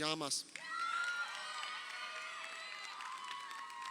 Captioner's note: crowd cheering